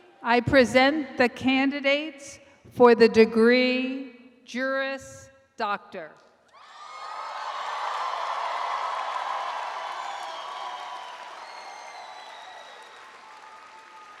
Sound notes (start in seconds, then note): 6.6 audience applauds